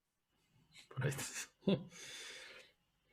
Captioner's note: laughs